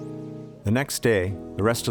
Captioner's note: voiceover